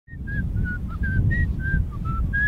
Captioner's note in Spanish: silbido